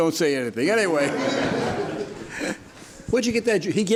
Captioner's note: spectators laugh